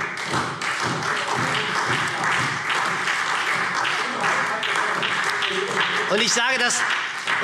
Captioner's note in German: Beifall SPD und Freie Demokraten - Unruhe